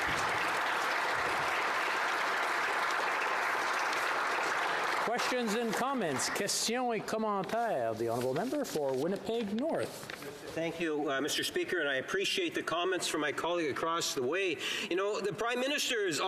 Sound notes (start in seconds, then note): 0.0 applause